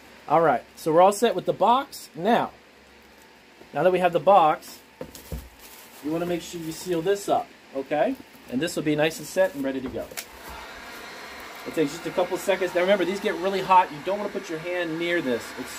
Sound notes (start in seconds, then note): 11.5 heat blowing